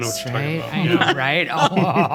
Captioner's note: all laughing; laughs